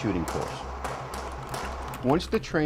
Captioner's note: gunshots